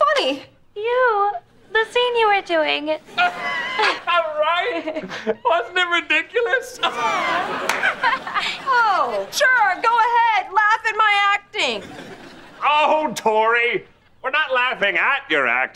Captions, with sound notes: You. The scene you were doing. [laughing] Right? Wasn't it ridiculous? [laughing] Oh sure, go ahead, laugh at my acting. Ohhh Tori... we're not laughing at your acting...